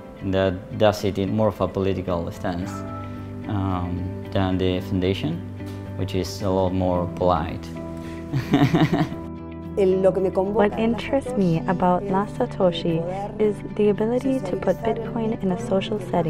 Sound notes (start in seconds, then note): 8.3 chuckles; 9.9 woman's voice, in Spanish